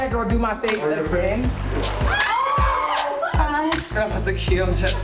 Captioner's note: women yelling